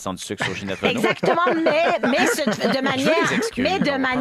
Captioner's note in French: rires